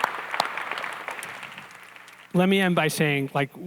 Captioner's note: applause